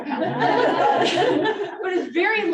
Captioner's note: audience laughing